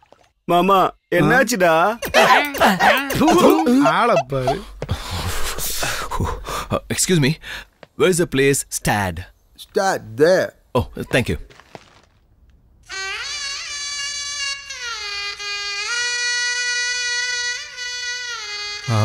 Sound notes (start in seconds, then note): 4.8 shivering